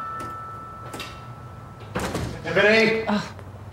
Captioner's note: door thuds